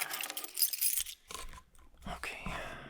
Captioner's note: keys clang